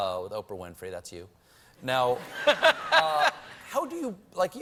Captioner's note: laughter